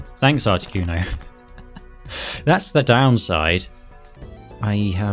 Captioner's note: laughs